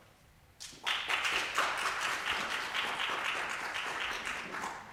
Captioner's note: audience applause